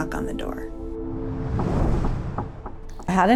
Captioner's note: knocking sound